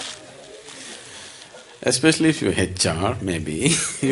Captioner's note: laughter